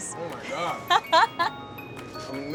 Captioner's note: laughing